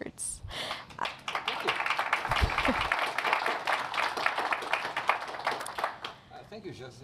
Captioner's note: applause